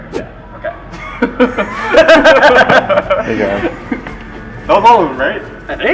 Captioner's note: laughter